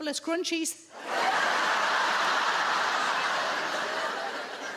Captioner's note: audience laughs